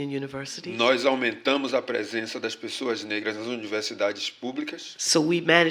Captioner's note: speaking portuguese